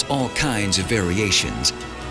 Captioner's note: speaking in foreign language